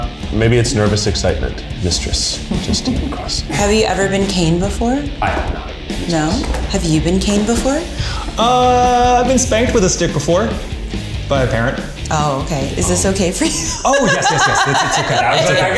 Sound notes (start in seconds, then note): 12.8 laughing